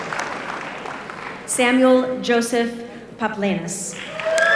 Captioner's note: applause